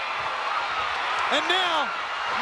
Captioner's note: audience cheering